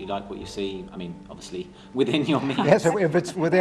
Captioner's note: laughter